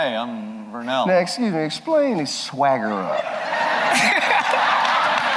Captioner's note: laughter